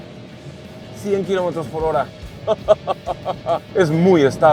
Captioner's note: laughter